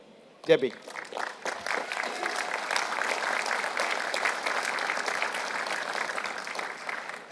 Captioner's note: applause